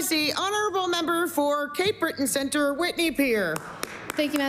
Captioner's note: applause